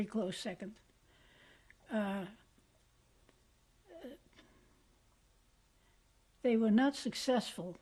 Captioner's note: pauses for 6 seconds